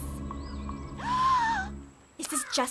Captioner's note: Sadie Gasp